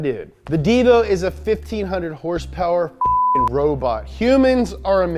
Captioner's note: beep